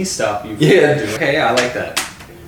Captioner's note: laughs